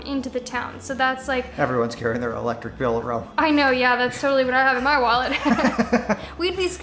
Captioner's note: laughs